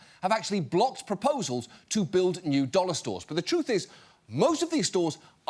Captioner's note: none